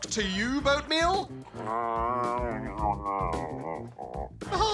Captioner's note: grumbles